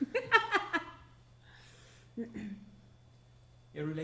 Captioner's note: laughing